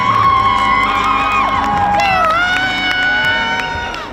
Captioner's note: crowd cheers